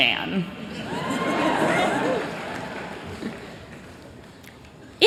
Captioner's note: chuckling